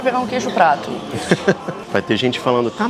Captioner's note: laughs